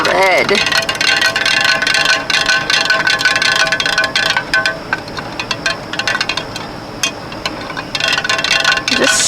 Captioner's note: spoon clinking loudly